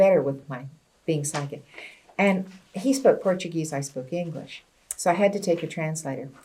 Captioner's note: none